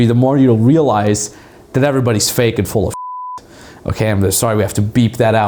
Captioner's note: beeps